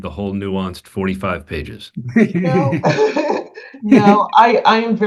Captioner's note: laughing